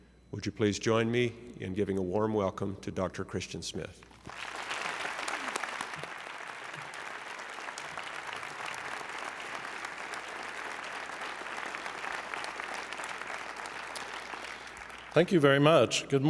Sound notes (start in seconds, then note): 4.1 applause